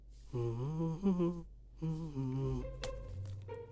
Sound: hums a song

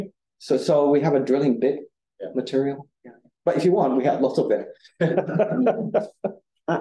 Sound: audience chuckling

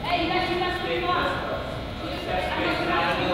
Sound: teams chatter

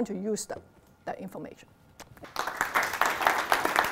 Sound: applause

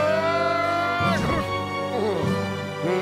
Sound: crashes, groans

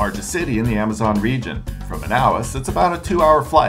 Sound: none

